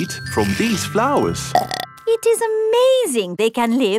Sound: burps

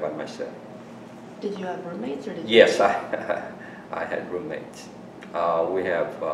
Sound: laughs

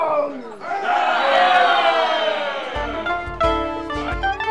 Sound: patrons cheering; lively folk music

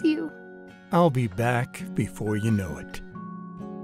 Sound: voiceover

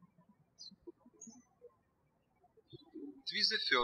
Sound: birds chirping

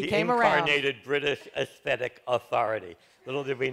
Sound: laughs

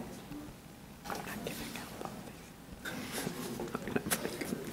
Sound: murmurs

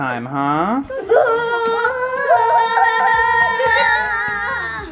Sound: all cheering

